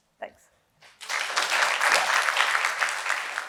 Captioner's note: applause